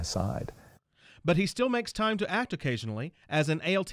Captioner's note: voiceover